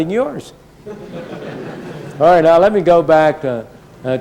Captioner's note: laughter